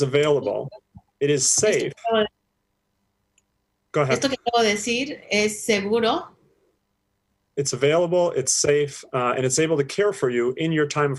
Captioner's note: speaking spanish